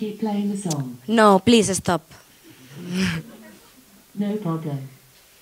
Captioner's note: audience chuckles; chuckles